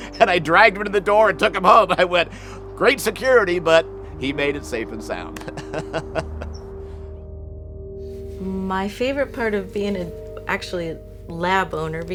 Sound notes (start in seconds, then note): 5.3 laughs